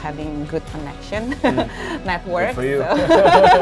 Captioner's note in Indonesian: tertawa